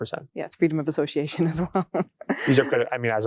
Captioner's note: laughing